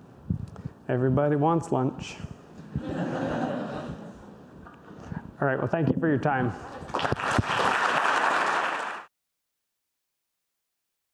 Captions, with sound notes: Everybody wants lunch. (audience laughter) Alright, well thank you for your time. (audience applause)